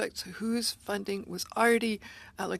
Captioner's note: speaking French